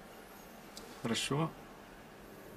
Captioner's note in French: Paroles en russe